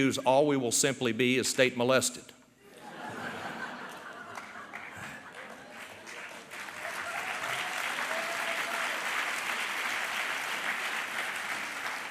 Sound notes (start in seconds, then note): 2.6 laughter; 5.9 applause